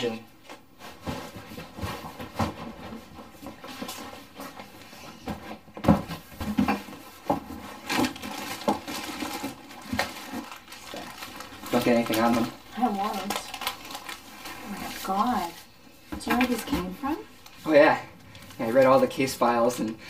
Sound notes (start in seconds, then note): 0.4 rustling sound; 6.0 clattering sound; 7.6 cracking sound; 13.9 rustling sound